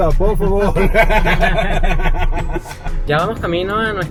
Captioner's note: laughs